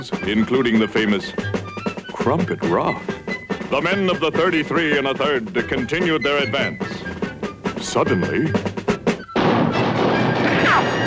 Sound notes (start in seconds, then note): 9.3 booming